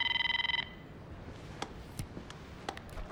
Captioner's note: phone ringing